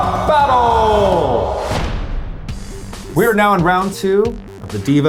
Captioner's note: none